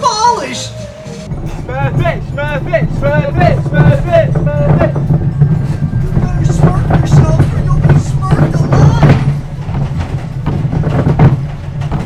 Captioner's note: chanting